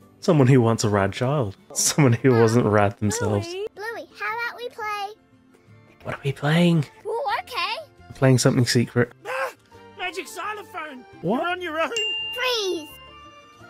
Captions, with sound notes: Someone who wants a rad child. "Someone who wasn't rad themselves." "Bluey, how about we play..." What are we playing? "Ooh, okay!" We're playing something secret. "Agh! Magic Xylophone!" What? [Ding] "Freeze!"